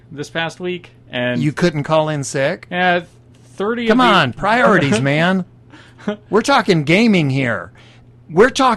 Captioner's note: laughing